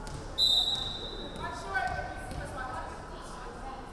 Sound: referee whistling

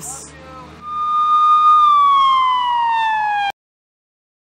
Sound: sirens

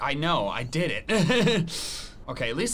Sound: laughs

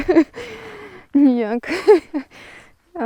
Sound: сміюся

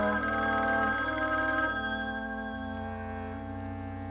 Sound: phone ringing

